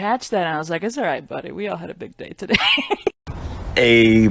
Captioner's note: laughs